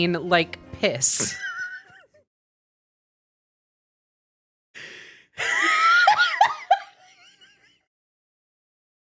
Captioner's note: laughing